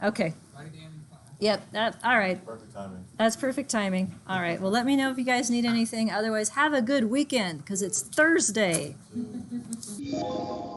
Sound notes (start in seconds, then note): 9.1 student laughs; 10.0 computer chimes